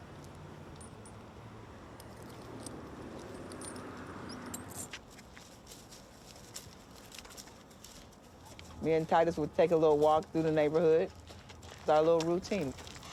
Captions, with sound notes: (lead rustling) Me and Titus will take a little walk through the neighborhood, it's our little routine.